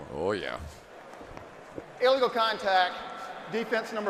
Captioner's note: pa announcement